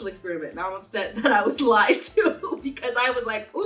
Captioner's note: laughing